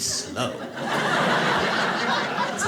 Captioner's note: audience laughs